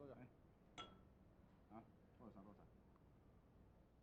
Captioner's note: glass clinking